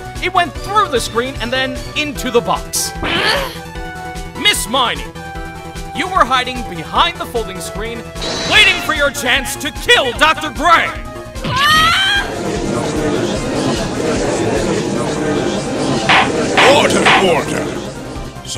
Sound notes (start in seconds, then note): 12.7 gallery chattering; 16.1 gavel slams!